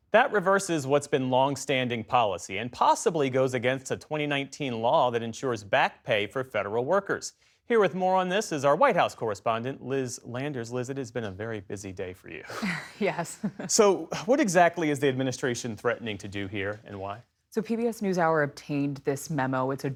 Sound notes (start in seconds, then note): 13.2 laughter